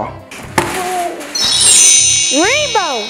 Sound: chimes

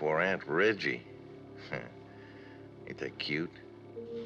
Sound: chuckles

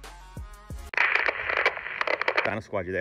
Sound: static sound

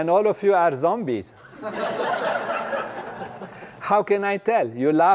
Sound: laugh

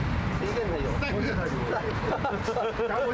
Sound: more nervous laughter; nervous laughter

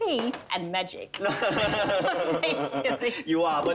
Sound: laughing

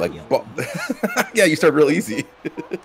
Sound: laugh

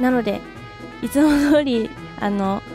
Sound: haha; laugh

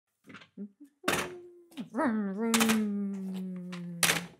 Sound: humming

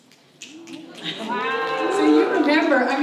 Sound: fingers snapping

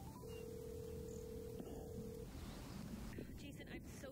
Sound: phone ringing

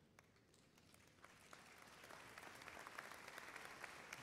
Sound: applause

